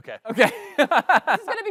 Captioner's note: laughter